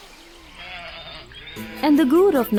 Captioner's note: goat bleating